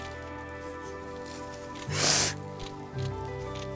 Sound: crying

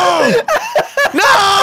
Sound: laughing

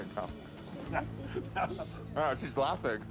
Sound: laughing

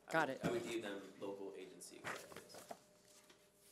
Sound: speaking faintly

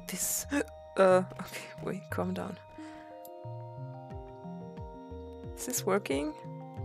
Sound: gasps

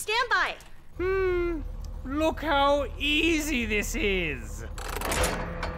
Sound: hums

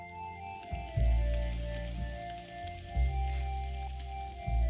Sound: motor running

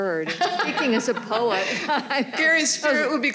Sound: all laughing

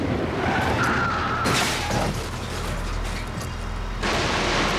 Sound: tires screech

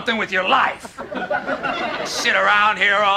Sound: laugh track

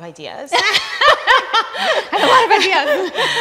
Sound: laughter

